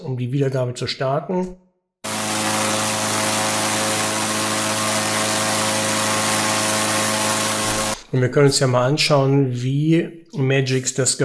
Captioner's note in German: Gebläsegeräusch